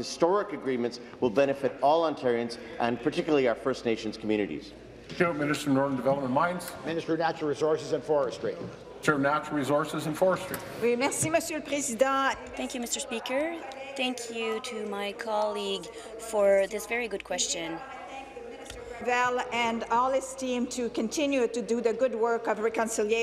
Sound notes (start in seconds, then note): 14.0 speaking in French